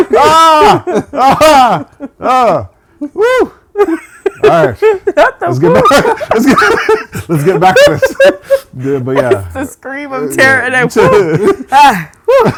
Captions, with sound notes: (laughing) Alright. Not the whoo. - Let's get back to it. - It's the scream of terror and than whoo.